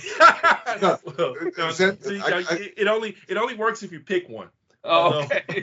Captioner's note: laughing